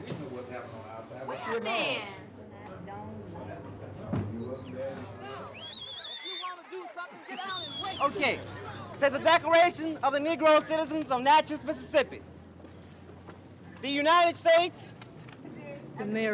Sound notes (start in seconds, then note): 0.3 indistinct conversation; 4.4 whistling, shouting